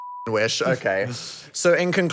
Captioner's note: beep